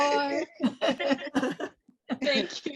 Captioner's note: group laughs